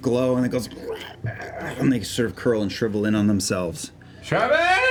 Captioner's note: gurgling